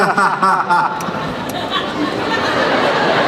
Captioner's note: laughing